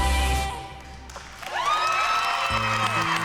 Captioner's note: cheering, applause